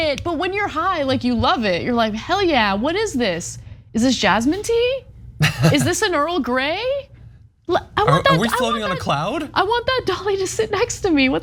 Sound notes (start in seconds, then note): 5.4 laugh